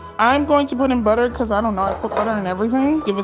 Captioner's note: whisk tapping